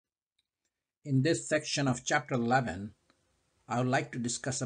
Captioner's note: voiceover